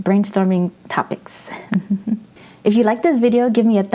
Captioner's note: laughs